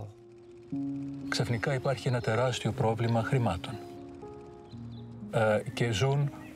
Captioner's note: speaking in foreign language